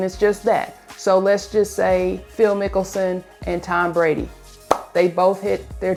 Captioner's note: claps